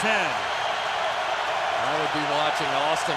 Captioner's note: cheering